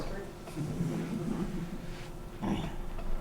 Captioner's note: chuckling